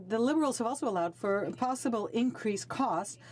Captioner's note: speaking French